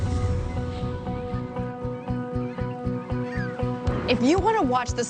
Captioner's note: gulls cawing; gentle instrumental music